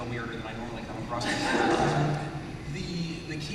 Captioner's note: laughter